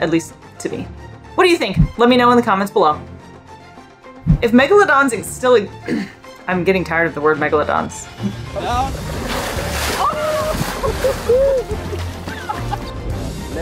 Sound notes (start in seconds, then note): 3.2 background music; 5.9 clears throat; 8.1 background laughing and chatter; 8.1 background music; 8.1 water splashing noise